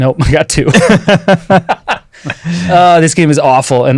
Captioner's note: everyone laughing